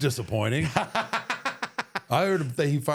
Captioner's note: Michael laughs